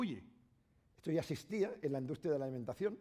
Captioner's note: speaking spanish